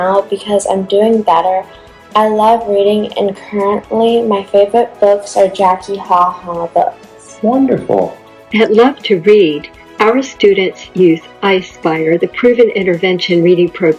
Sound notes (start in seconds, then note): 8.6 voiceover